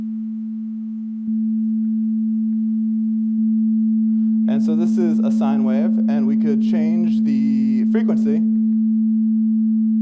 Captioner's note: pure tone playing